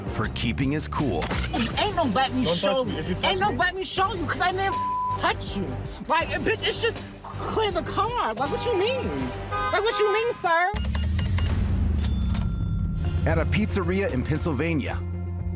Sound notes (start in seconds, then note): 8.4 honking; 10.7 cash register beeping, dings